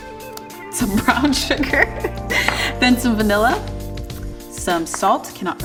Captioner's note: laughs